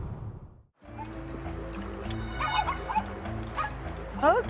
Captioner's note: chickens clucking